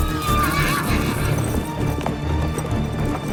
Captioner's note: horse neighs; dramatic music